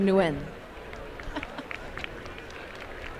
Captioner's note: applause